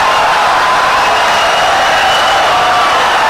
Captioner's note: audience cheering, applauding for 17 seconds